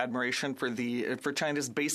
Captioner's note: speaking French